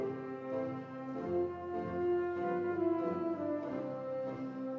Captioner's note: crowd applauds